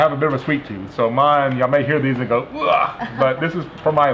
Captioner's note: retches loudly